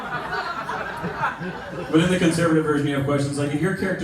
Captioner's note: laughter